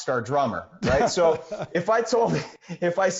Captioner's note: interviewer laughs